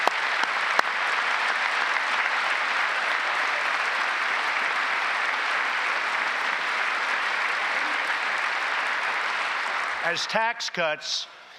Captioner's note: applause